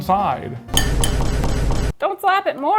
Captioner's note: loud banging